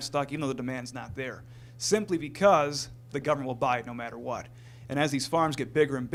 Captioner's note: none